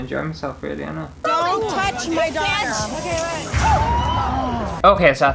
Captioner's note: wine slaps face